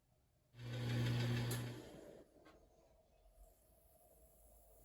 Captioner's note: machine hums